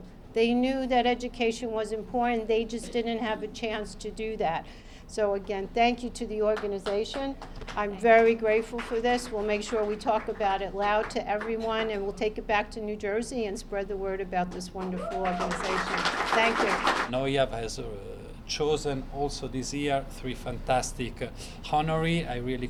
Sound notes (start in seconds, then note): 18.2 cheering and applause